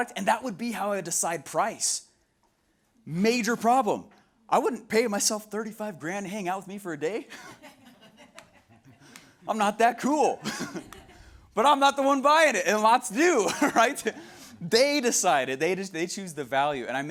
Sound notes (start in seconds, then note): 7.3 laughs; 10.3 audience members laughing